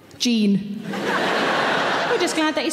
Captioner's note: audience laughing